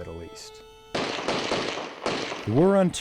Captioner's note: gunfire; voiceover